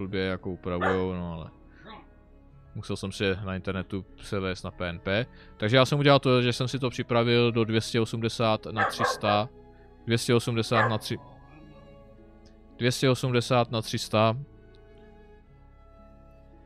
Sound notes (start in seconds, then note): 8.7 dog barks